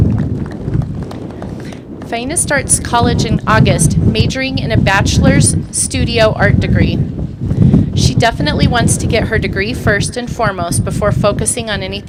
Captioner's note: applause